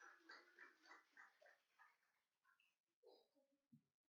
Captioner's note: applauding